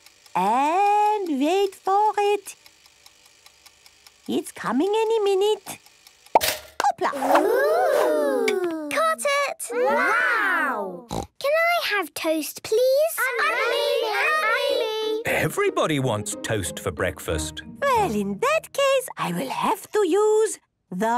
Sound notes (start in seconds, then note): 2.9 toaster ticking; 6.3 pops; 13.2 all calling out